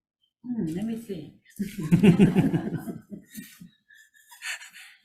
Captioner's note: everybody laughing